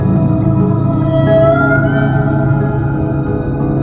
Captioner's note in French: Chant de rorqual